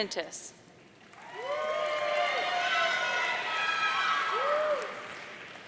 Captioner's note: audience cheering